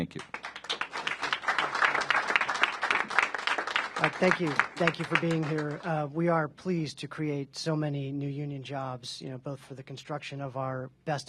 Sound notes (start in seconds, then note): 2.2 applause